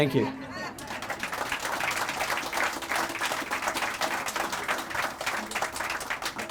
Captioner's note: crowd laughing; crowd applauding